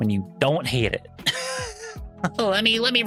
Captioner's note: laughs